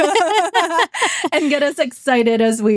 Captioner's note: laughing